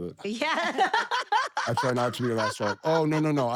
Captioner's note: laugh